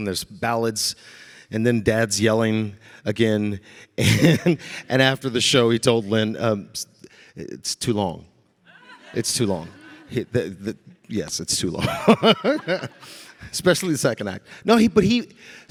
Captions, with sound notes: there's ballads, and then Dad's yelling again. And (chuckling), and after the show he told Lin, "It's too long, it's too long." Yes, it's too long, especially the second act. No he, but he,